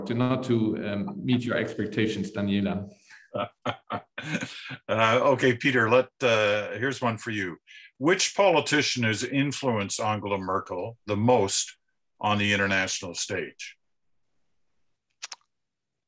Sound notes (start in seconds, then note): 3.2 laughing